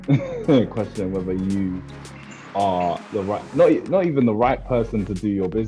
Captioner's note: laughs